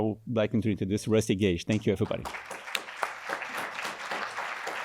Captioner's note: applause